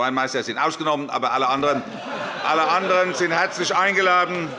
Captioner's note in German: Große Heiterkeit